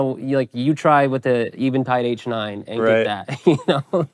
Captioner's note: laughing